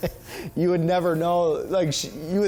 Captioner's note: laughing; laughing